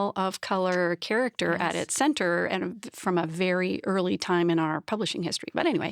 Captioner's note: none